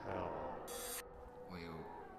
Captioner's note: whooshing